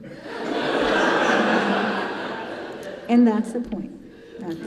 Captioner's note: congregation laughing